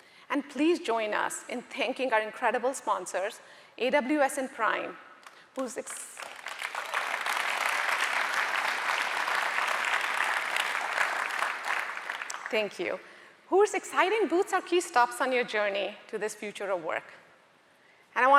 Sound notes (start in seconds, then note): 6.1 audience applauding